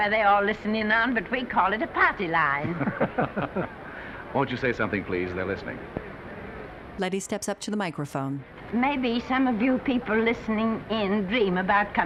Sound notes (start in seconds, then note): 2.6 Danny and announcer chuckling